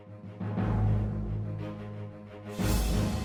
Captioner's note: none